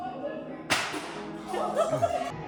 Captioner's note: items bang